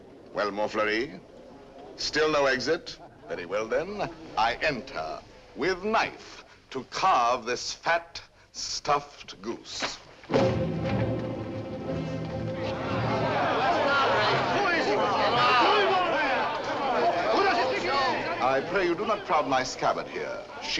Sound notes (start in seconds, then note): 10.3 ominous music begins; 13.6 crowd clamors